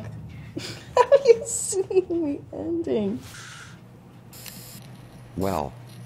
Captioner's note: laughs